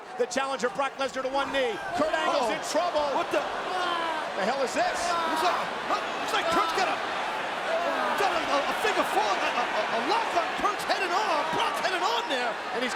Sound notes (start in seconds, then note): 6.1 Brock groaning; 7.6 audience cheering and clapping